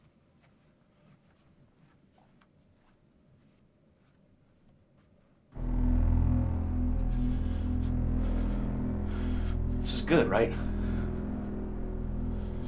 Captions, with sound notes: [ominous synthesizer music] [heavy breathing] This is good, right?